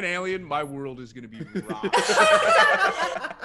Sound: laugh

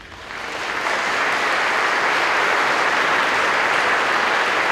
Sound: crowd clapping

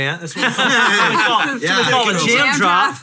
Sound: hosts laugh

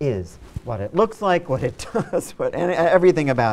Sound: laughs

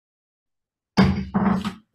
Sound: gavel bangs

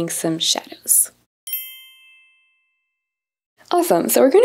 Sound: chime rings

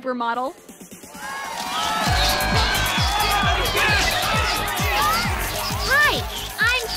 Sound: techno music playing; cheering

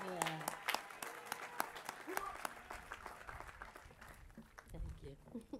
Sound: applause

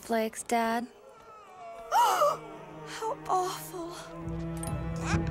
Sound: gasping

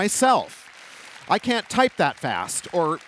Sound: applause

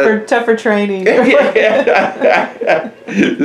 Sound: laughter

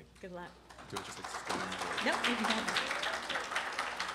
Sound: applause

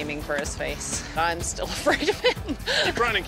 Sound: chuckles

